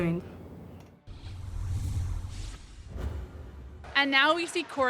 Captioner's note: scene whooshing